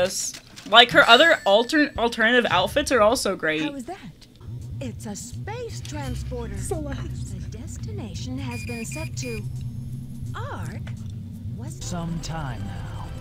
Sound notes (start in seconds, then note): 6.3 quiet giggling